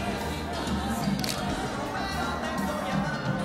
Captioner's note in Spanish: Clic de la cámara